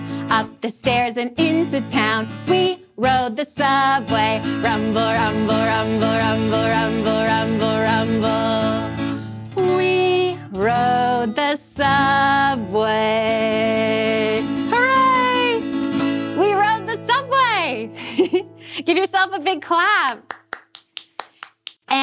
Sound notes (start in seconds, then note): 18.0 giggles; 20.0 clapping